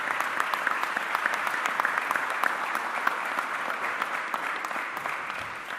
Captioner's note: applause